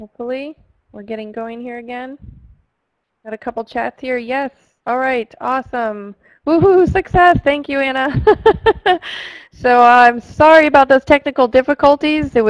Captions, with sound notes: Hopefully, we're getting going here again, I've got a couple chats here, yes, alright, awesome! Woohoo, success, thank you Anna. (laughter) So I'm sorry about those technical difficulties,